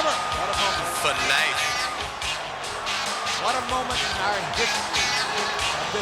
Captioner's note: speaks faintly